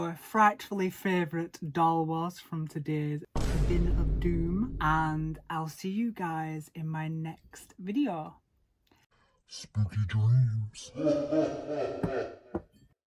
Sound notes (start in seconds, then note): 3.3 jump scare; 10.9 creepy demonic laugh